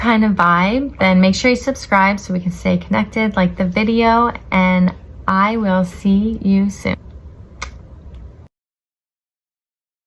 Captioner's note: kiss